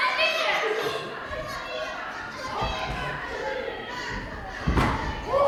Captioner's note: monkeys continue to chatter; audience cheers